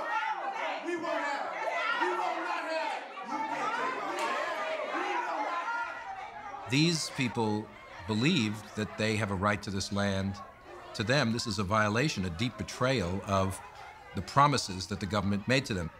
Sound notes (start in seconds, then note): 1.8 all continue shouting